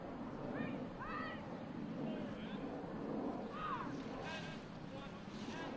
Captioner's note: military commands off mic